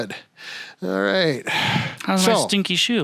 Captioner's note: exhaling